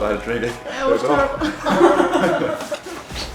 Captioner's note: both laugh